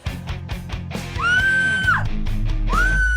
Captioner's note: screaming